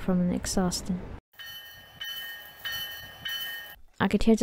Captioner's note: ding ding ding